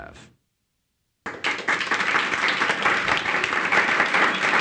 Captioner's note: applause